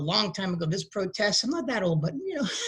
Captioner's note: laughs